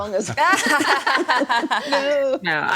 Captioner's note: all laughing